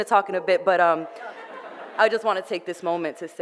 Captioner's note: audience laughter